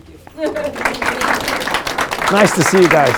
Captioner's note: group applauding